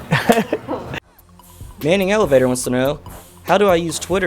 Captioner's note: laughing; voiceover